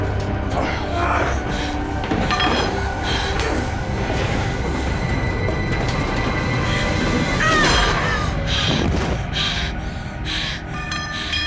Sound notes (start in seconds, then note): 0.9 brent groans